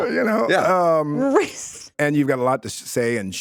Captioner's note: laughs